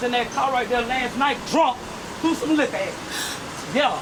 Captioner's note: gasp